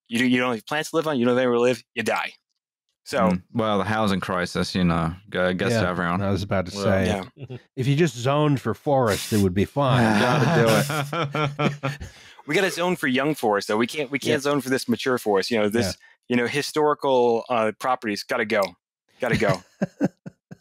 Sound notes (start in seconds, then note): 9.9 laughter